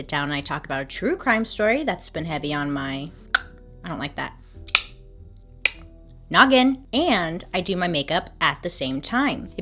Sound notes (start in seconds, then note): 3.3 tongue click; 4.7 tongue clicks